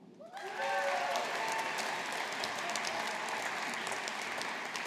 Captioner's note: audience applauding